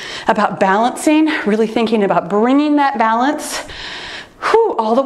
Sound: exhaling

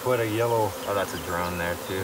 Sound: bees buzzing

